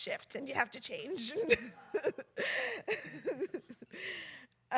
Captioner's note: laughter